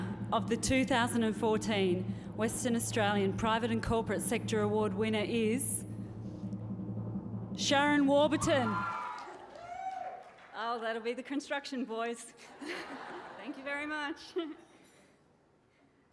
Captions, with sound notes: And the winner of the 2014 Western Australian Private and Corporate Sector award winner is... (DRUM ROLL) ..Sharon Warburton. (CHEERING) Oh, that'll be the construction boys. (LAUGHTER) Thank you very much.